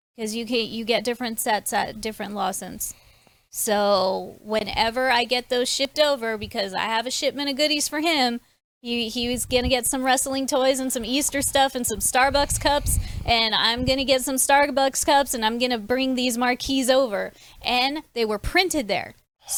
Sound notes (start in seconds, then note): none